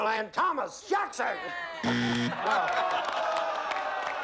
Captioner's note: buzzer